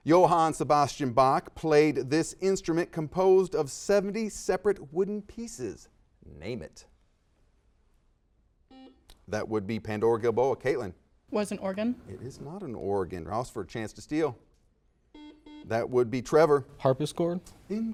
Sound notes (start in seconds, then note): 8.7 beeps; 15.1 series of beeps